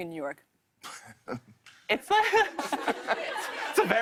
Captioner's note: laughs